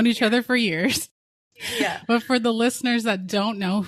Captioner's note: both giggling